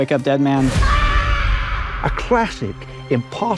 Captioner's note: screaming